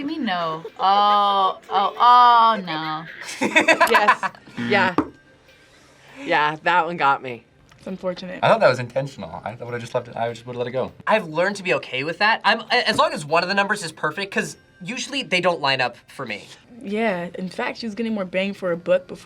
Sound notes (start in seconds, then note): 3.3 laughs; 4.6 buzzer rings